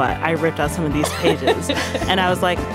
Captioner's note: laughing